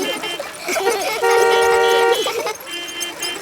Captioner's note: laughter; beeping